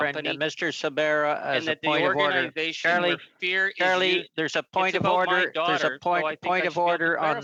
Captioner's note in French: voix de l'interprète